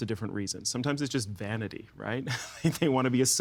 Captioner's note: chuckling